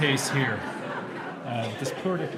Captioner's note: laughter